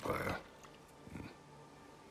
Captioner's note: grunt